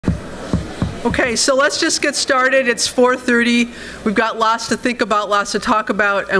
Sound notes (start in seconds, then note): 0.0 tapping on microphone